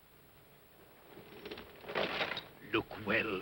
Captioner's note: metallic rattling sound; irritated voice